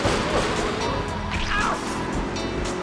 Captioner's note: gun firing; yelling